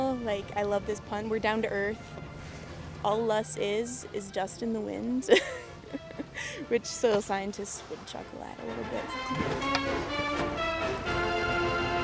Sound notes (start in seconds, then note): 5.2 laughs; 8.1 upbeat music